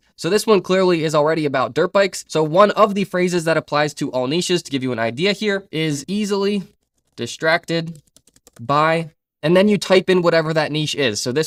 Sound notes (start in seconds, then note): 7.9 keyboard clacking